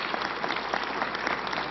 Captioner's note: applause